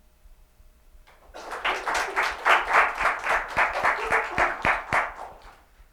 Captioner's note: applause